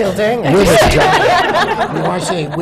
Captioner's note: laughter